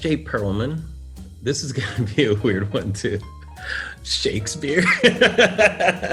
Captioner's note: laughs